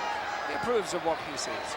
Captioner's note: audience chattering